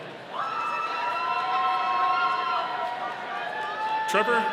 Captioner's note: audience cheering